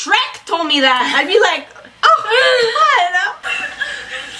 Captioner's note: laughs